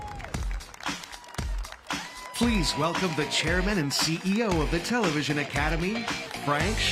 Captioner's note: cheers and applause